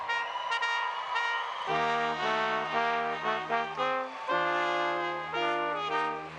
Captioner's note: cheering